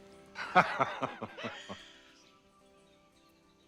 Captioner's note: cyril laughs